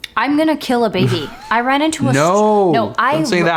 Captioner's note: laughs